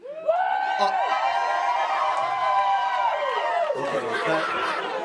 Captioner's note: clapping and cheering